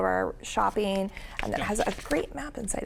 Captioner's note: paper rustling